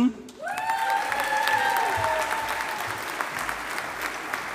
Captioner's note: audience applauding